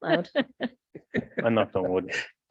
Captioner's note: people chuckle